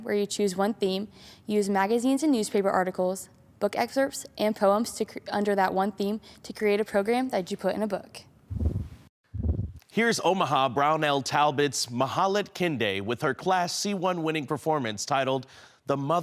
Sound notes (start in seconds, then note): 8.5 whoosh